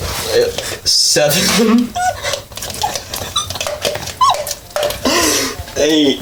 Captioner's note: laughing, scraping the jar